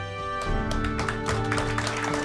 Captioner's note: applause